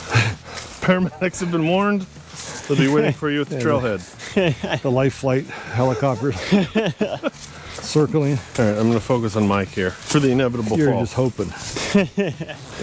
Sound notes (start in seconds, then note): 0.8 phone text chime; 5.6 laughter